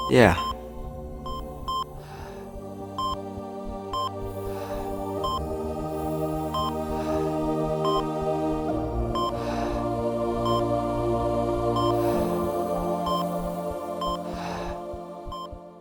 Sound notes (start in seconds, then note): 9.3 heavy breathing